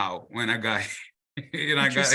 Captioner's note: laughs